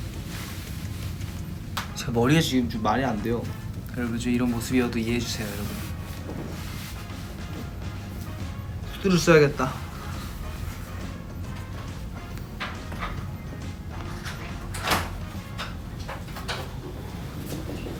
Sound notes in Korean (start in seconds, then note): 14.6 문 여닫는 소리